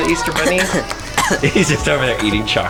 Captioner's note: coughing